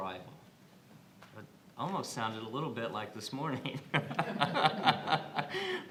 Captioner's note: laughs